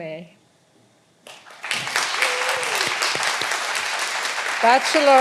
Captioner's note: all applauding